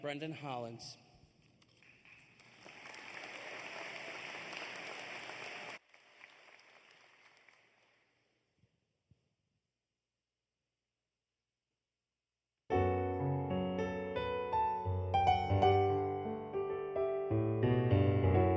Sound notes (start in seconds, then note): 8.4 applause